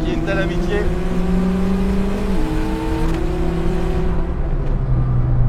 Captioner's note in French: Vrombissement du moteur